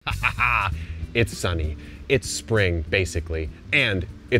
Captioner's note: chuckles